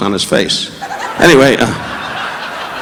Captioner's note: audience laughing